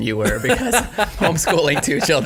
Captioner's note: laughing